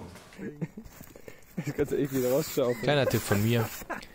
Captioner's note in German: Gelächter